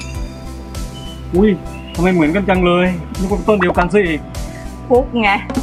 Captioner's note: in arrogant tone